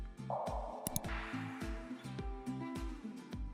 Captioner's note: keyboard clacking; mouse clicking; slow upbeat guitar music